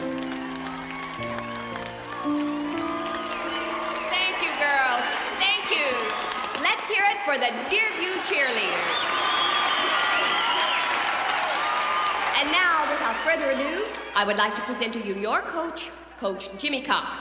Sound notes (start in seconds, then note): 8.4 all applauding; 8.4 all cheering